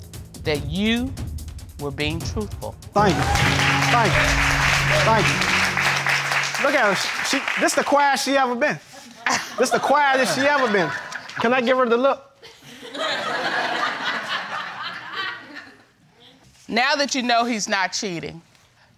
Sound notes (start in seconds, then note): 10.1 laughs; 12.6 audience laughing